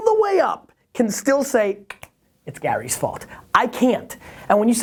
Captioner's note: snaps fingers